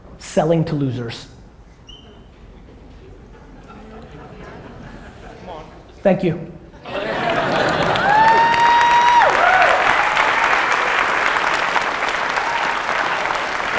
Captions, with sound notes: selling to losers. (light audience laughter) Thank you. (audience cheers and applause)